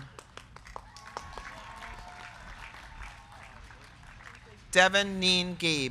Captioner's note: crowd clapping; crowd cheering